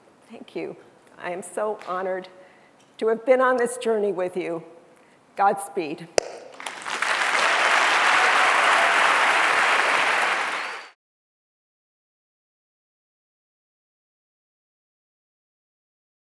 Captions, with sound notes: thank you, I am so honored to have been on this journey with you. Godspeed. (audience cheering and clapping)